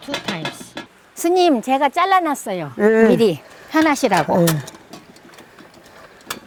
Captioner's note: speaking foreign language